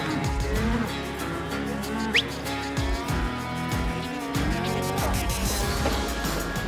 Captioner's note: cattle moo